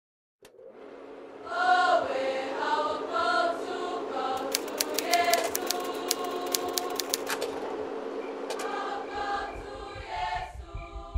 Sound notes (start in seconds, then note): 0.4 projector clicks, whirrs; 4.4 typewriter keys clack